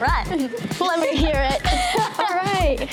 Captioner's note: laughter